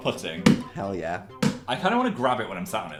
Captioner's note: smacks chair